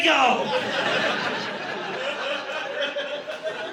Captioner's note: audience laughing